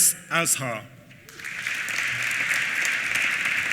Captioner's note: applause